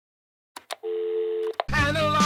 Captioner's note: dial tone; click